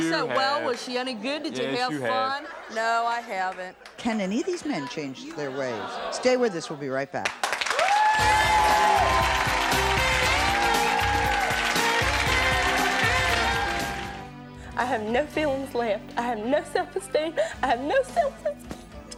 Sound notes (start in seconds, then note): 10.1 applause; 10.1 laid back jazzy theme music